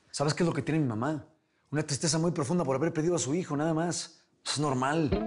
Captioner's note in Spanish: none